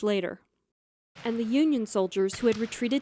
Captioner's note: gunshots